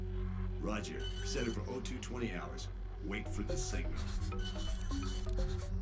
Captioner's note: over comms